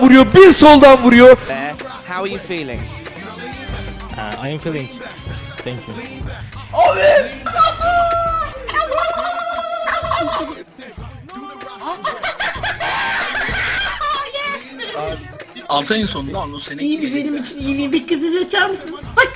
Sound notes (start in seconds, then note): 6.8 laugh